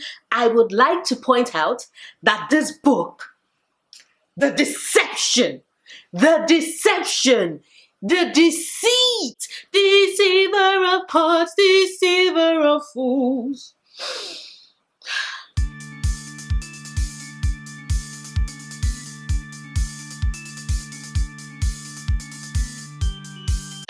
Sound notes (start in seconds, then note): 15.0 sigh